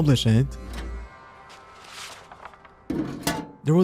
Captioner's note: music stops abruptly; mailbox opens; mailbox closes